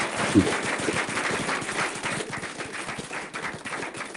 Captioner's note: applause